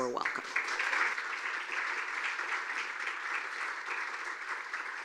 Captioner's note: audience applauding